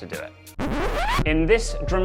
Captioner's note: scratches